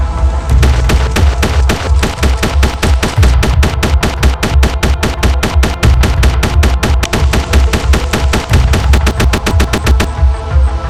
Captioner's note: rapid Gunfire